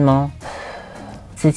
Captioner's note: sighs